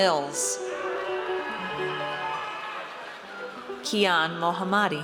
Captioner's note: audience cheers